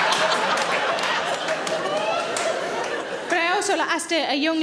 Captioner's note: audience laughing; audience applauding